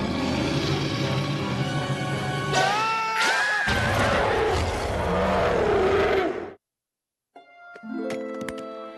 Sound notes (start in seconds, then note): 0.0 growling; 3.7 roars